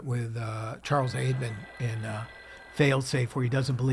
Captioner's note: phone ringing